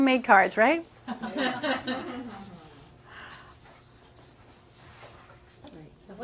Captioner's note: laughing